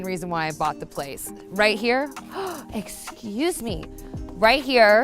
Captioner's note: gasps